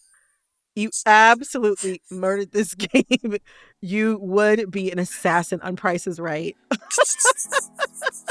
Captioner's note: laughter